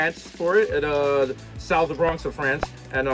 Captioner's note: pops